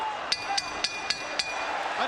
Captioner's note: bell dings